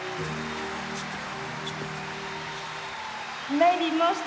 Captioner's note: audience applauding